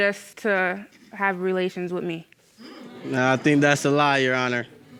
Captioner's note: audience moaning